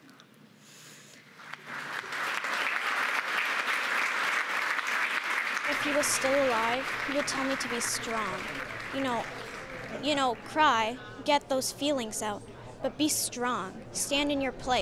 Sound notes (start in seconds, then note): 3.7 applause